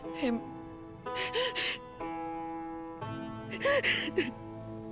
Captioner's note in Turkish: Ağlama sesi